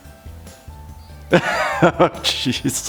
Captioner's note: laughing